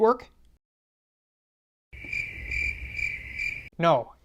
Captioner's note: crickets Chirping